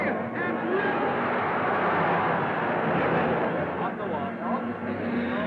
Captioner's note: crowd cheering